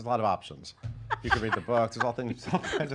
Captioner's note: laughing